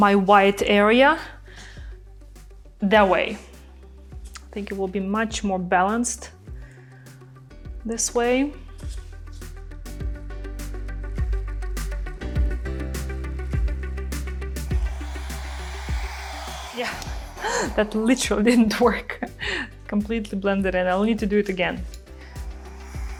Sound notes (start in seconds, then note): 2.9 light music; 8.4 upbeat music; 14.6 machine whooshing